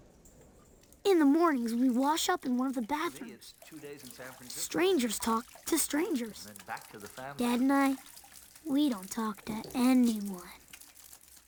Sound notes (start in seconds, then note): 1.5 water splashing